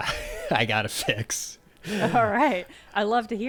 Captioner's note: chuckling